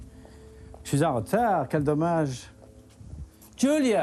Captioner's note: speaks French